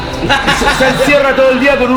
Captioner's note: laughs